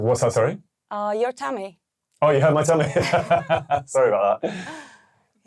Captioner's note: laughing